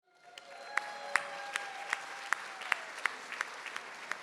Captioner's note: audience cheering